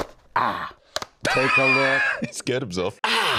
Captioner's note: laughs